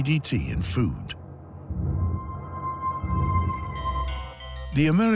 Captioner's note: eerie sounds